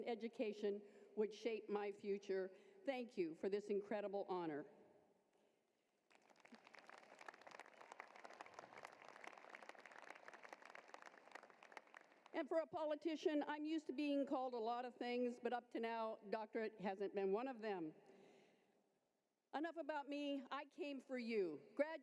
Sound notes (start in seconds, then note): 6.0 applause